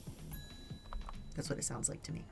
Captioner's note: imitates machine noises